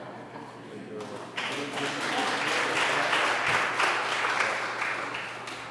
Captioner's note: applause